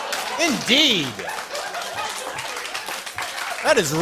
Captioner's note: applause